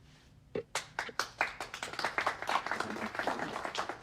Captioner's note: audience applauding